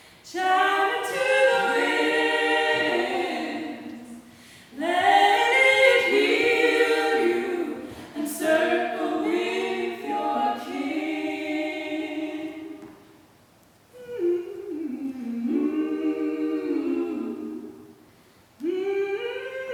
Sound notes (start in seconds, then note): 14.0 humming